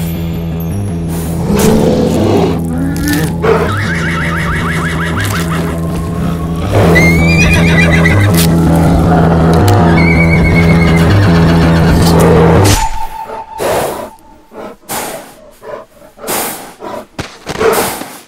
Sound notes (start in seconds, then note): 3.6 pained whinny; 8.3 bear continues to chomp; 9.6 whinny; 14.3 heavy breathing